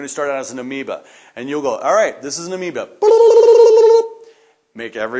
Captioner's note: makes tongue trilling noise